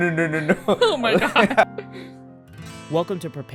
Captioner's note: laughs; laughter